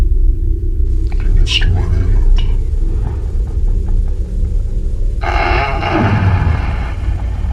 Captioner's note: En alemán